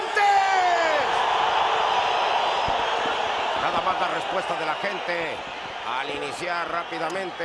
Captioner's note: applause